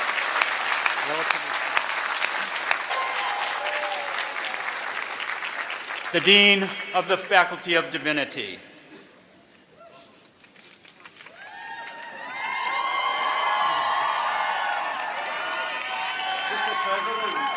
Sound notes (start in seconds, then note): 11.2 cheering